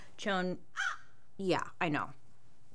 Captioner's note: crow cawing